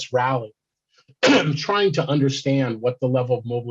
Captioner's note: coughs